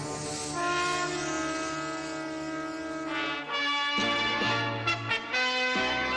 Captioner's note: spray hissing